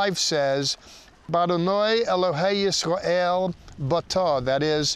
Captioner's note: speaking in Hebrew